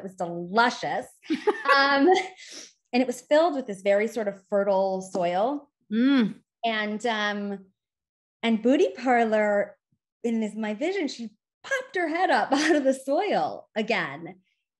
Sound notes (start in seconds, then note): 1.3 chuckles